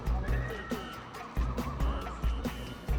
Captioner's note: audience members cheering